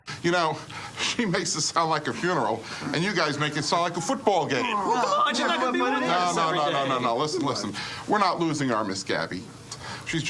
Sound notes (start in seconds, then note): 5.3 crowd chattering